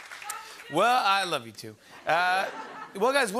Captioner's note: light laughter